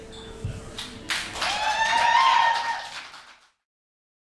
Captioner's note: cheers and applause